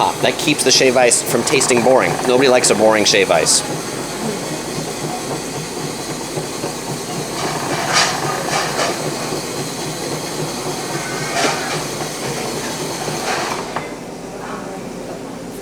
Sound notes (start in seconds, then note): 5.3 machine grinds